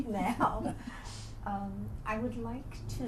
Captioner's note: laughter